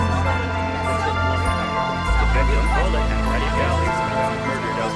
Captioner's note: reporters clamoring